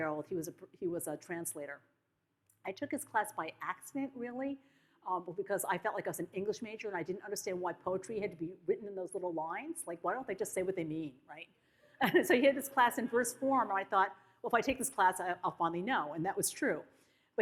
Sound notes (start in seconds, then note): 11.9 audience laughs